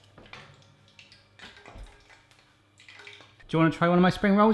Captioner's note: sizzling